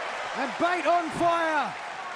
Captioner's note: crowd cheering